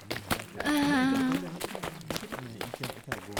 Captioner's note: nervous sound